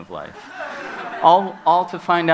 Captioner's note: laughs